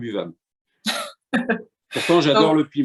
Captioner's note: laughter